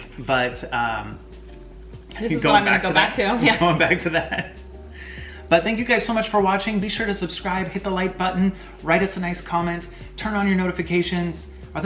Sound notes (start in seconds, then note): 3.3 laughs